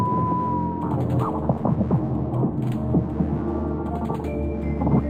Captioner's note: distant lasers firing